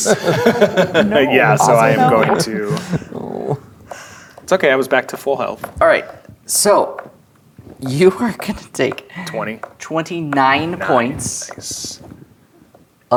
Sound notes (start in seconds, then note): 0.0 players laughing; 2.7 others chatting and laughing